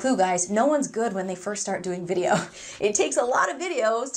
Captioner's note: laughs